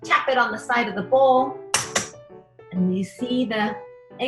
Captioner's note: egg hitting side of the bowl